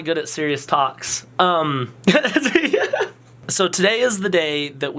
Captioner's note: laughs